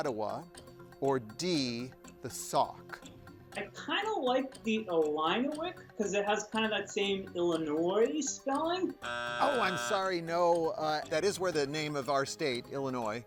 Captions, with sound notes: or D, the Sauk? - I kinda like the Illiniwek, 'cause it has kinda that same Illinois spelling. (buzzer sounds) - Oh, I'm sorry, no. That is where the name of our state, Illinois, comes from,